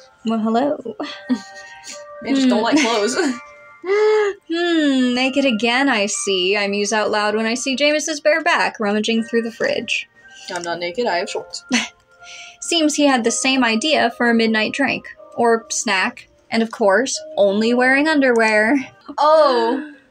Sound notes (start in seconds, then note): 1.0 chuckle; 2.3 laugh; 11.7 chortle